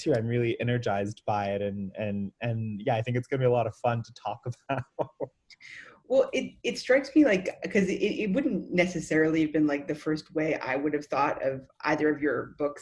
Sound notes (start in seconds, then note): 4.2 laughs